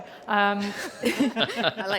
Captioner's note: laughter